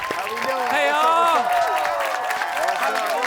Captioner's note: audience cheering